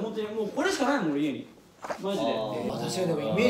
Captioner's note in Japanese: none